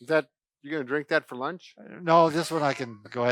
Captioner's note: laughs